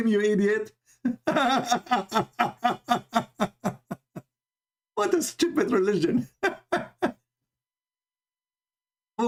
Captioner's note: Ketawa